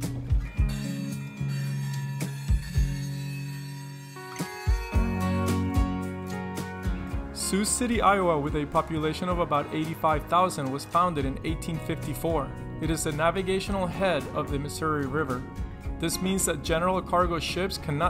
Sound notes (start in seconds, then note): 1.4 train screeching